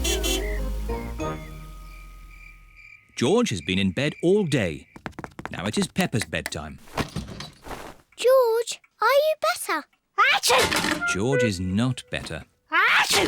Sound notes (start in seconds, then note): 0.0 horn honks; 10.5 sneezes